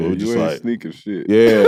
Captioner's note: laughs